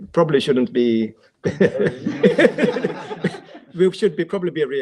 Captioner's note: laughing